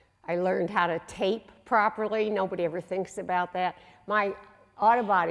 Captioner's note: none